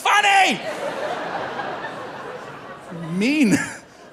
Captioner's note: audience laughing; laughs